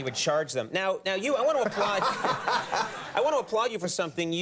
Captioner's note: audience laughs